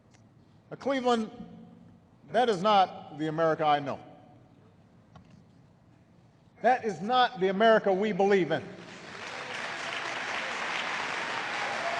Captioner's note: applause